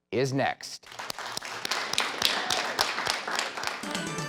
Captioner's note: clapping